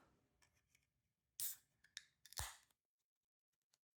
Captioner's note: can opening